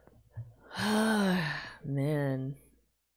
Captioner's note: sighs